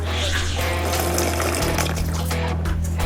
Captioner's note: slurp